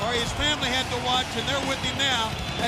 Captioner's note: crowd cheering